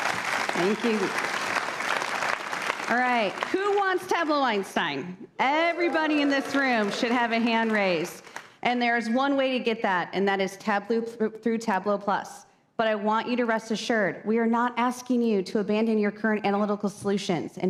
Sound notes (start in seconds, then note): 7.9 applause